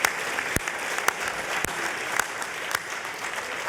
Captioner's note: applause